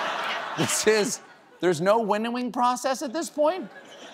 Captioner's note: laughter